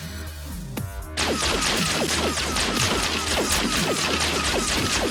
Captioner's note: guns blasting